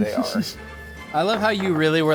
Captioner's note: laughing